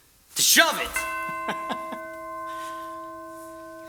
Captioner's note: chime